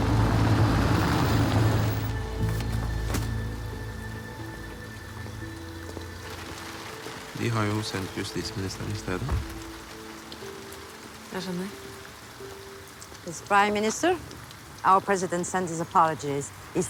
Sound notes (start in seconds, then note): none